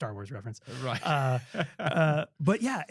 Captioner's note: laughing